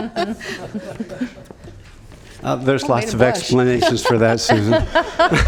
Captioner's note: laughter